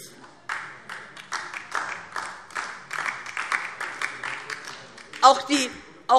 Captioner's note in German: Beifall DIE LINKE